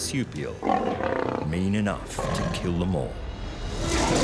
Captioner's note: marsupial snarling; marsupial roaring